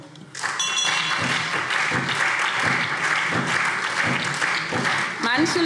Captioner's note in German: Beifall SPD